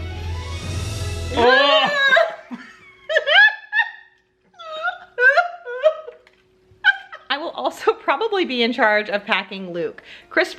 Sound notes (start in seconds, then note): 0.0 upbeat music; 3.1 both laughing